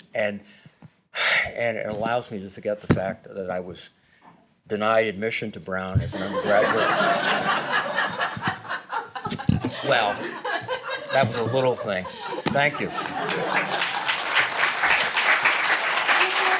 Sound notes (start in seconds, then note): 6.1 laughter; 12.6 applause